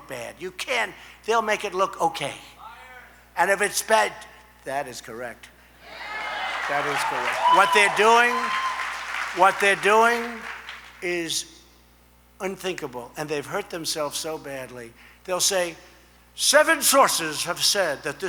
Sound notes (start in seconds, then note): 8.8 applause